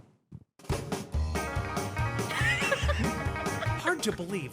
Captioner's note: laughs; upbeat, playful music